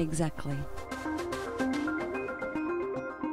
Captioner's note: voiceover